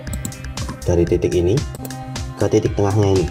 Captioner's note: click